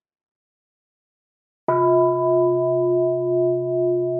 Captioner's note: bell